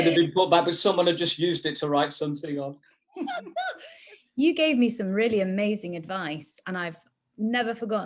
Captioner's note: laughter